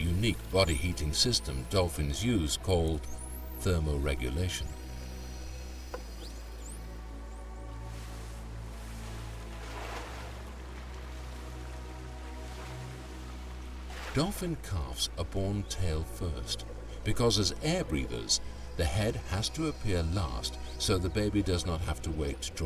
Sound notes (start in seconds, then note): 9.4 water splashing